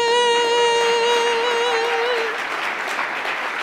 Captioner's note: applause